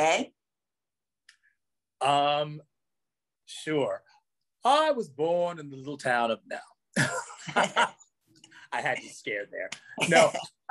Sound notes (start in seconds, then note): 7.0 both laugh; 9.7 laughs